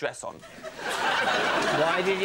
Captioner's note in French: rires